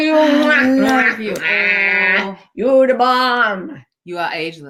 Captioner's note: kissing sound